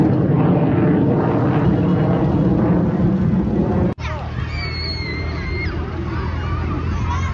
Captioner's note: kids screaming